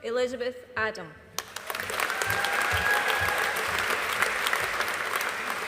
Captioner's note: audience applauding